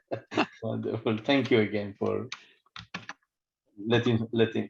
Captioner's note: laughter